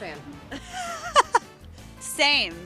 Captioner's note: laughing